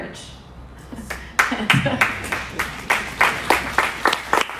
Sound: audience applauds

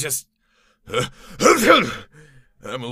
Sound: sneeze

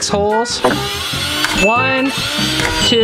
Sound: drill revs

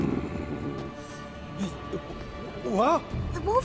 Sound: fierce growling; stammers

